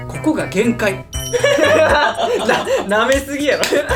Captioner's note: laughs